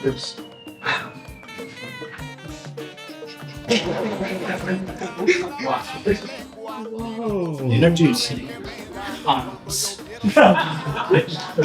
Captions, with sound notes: [whistle getting closer] [explosion sound] Introducing COMET [laughing]